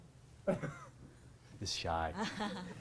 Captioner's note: audience member coughs in embarrassment; audience laughing